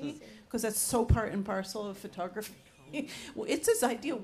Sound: chuckles

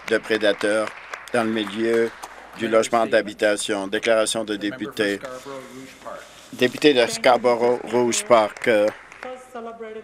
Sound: some Applause

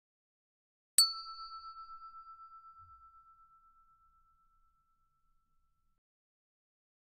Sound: sound hand bell

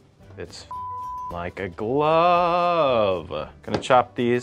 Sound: beeps

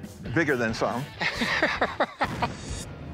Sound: laughs

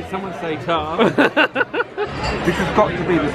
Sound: laughs

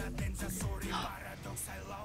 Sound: gasps

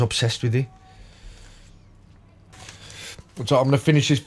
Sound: silence

